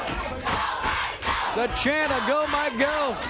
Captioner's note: crowd cheering